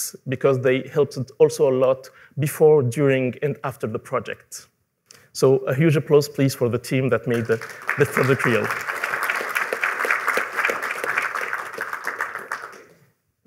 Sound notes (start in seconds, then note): 8.8 applause